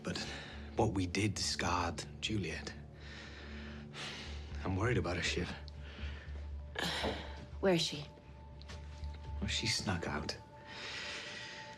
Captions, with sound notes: But what we did scarred Juliet. I'm worried about her, Shiv. (sighs) Where is she? She snuck out.